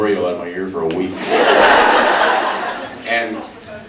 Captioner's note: laughs